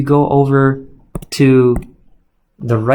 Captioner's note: keyboard clicks